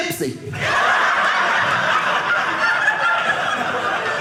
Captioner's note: audience laughing